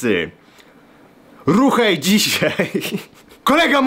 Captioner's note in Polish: śmiech